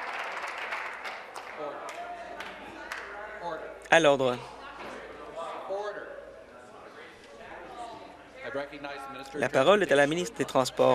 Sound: applause

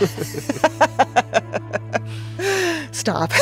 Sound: laughing

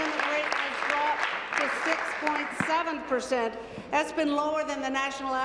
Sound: applause

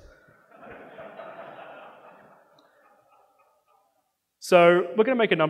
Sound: audience laughing

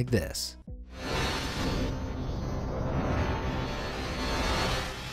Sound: sound waves screeching

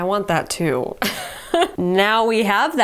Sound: chuckles

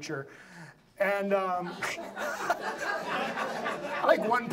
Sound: laughs; audience laughs

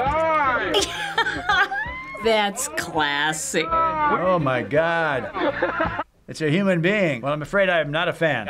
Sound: laughs

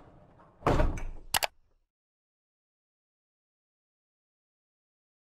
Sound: thuds; clicks

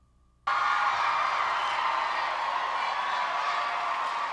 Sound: crowd screaming

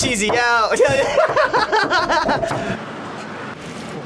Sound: laughs

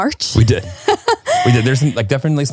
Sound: laughing

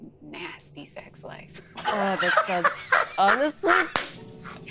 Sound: players laughing

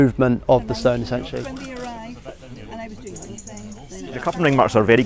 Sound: upsound of archaeologists discussing

